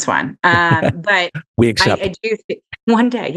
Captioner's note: laughs